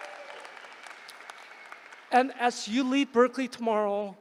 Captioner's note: applause